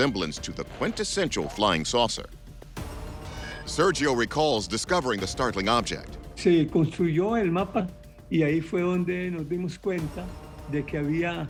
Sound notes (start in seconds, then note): 6.1 speaking Spanish